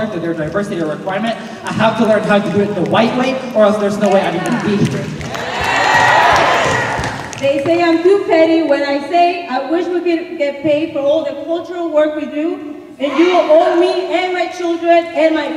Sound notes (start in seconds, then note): 5.1 cheers and applause